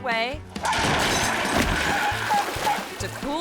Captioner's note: table crashes; dog barks